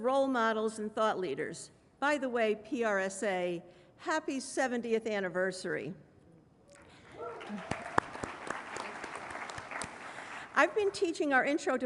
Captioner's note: applause